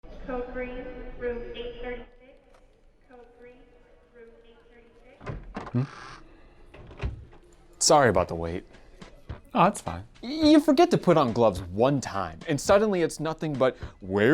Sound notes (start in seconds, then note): 5.1 door opens & closes